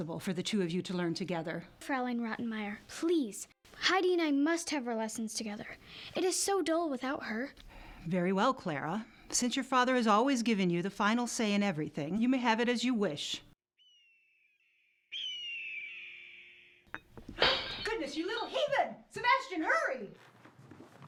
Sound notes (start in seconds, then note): 15.0 great bird screeching; 15.1 great bird crying; 16.9 glass smashing